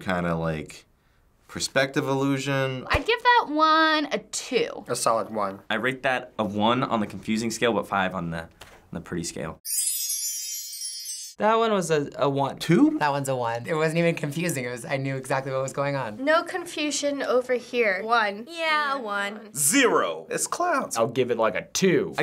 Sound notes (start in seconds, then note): 9.6 chimes tinkling